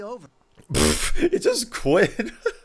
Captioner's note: laughs; laughing